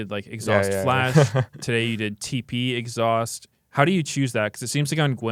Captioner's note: laughs